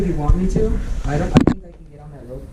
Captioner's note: thumping